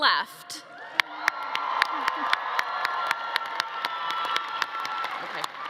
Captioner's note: attendees applauding and cheering